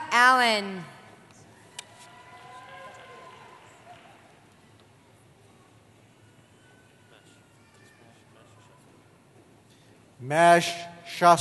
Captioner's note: cheering